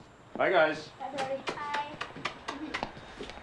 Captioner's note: both chuckling; smooching